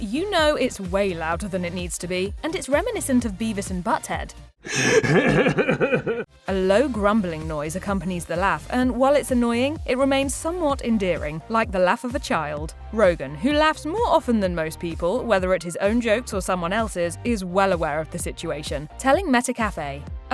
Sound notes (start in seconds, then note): 4.7 laughing